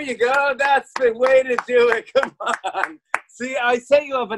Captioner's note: laughing